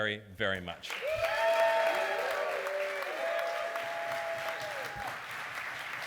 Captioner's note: applause